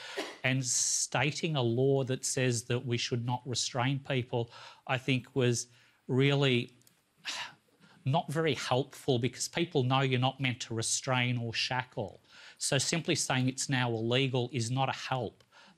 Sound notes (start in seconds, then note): 6.7 sighs